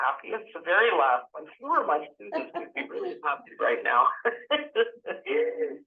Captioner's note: laughter